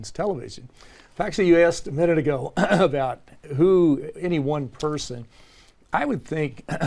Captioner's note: cough; cough